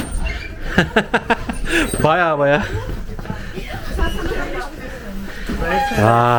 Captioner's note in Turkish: kahkaha